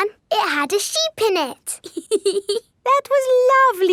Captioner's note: laughs